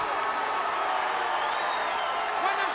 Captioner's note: crowd cheering